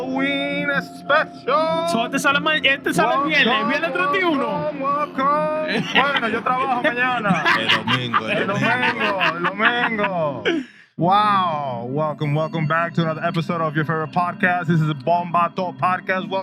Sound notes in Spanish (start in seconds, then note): 1.9 Hablando en español; 1.9 Risas; 7.6 Hablando en español; 7.6 Risas